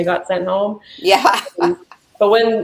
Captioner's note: laughing